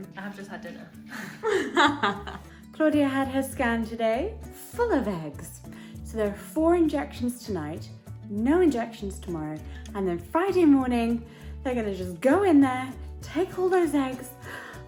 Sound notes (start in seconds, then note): 1.1 both laughing